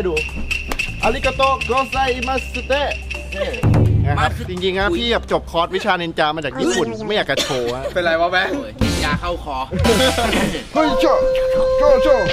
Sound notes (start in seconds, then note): 0.3 japanese instrument playing; 1.0 speaking Japanese; 6.4 puke; 9.7 laughs; 9.8 coughs; 10.7 japanese instrument playing